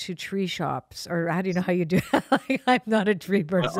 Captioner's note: laughs